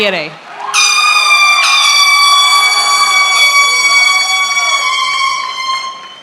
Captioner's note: attendees cheering; horn blowing